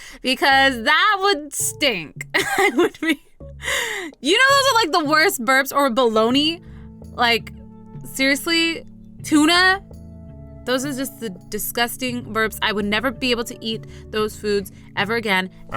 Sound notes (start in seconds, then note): 2.4 more laugh; 2.4 laugh